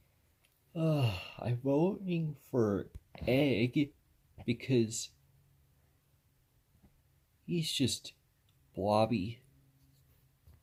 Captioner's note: yawns